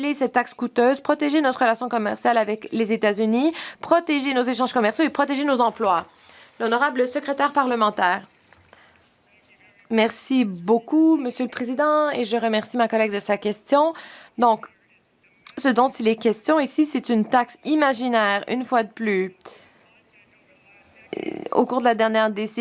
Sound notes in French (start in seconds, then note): 13.4 voix de l'interprète